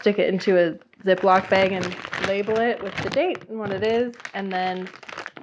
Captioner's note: heavy crinkle noises in the background